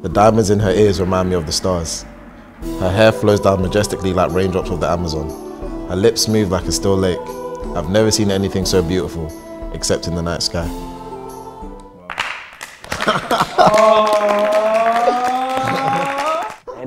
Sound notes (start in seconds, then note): 12.1 applause